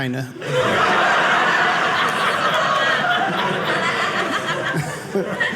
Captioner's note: audience laughing